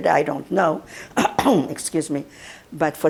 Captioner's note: clears throat